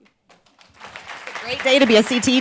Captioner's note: group applauds